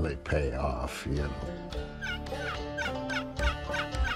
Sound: turkey call

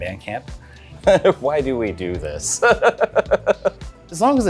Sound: chuckling

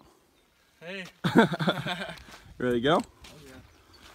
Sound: laughter

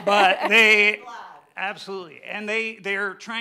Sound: murmuring

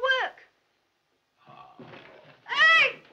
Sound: groans

